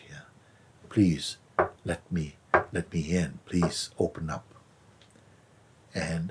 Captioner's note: knocking sound